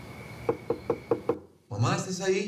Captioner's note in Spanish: Toques en la puerta